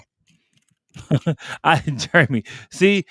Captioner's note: laughs